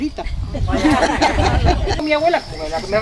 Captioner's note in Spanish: risas